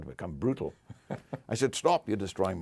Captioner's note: laugh